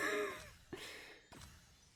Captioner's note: laughs